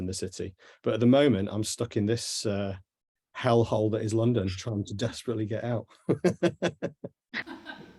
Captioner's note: laughs